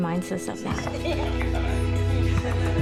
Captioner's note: laughter